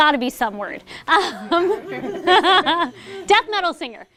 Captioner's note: laughter